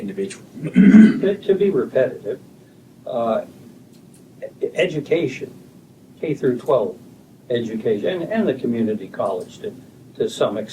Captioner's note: clears throat